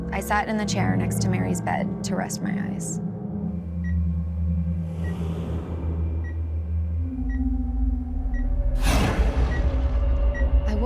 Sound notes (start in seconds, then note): 3.6 beeping; 4.6 ominous music